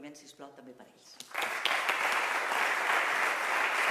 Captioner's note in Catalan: Aplaudiments